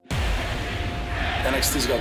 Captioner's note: fans chanting